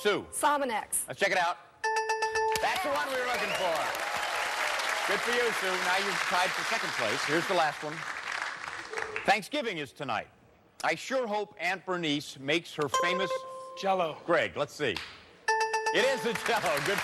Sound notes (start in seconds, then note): 1.9 bell rings; 13.1 buzzer rings; 15.5 bell rings